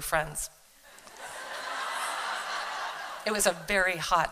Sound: laughter

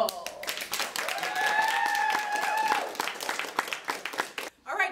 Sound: applause

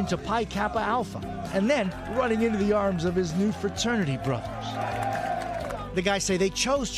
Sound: cheers

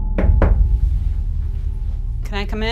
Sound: knocks

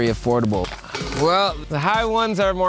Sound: basket chiming

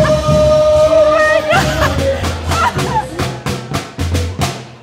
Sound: laughing; lively marching band music

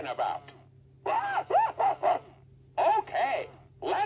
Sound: laughing

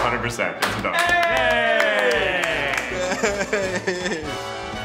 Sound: claps

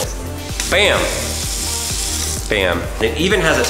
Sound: water splashing

